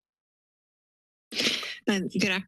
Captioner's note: sniff